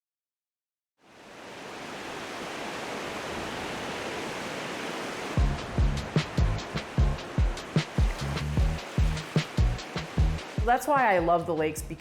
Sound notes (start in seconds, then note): 1.5 waves crashing; 5.3 mellow music